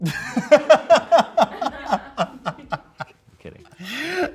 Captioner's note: and crew laugh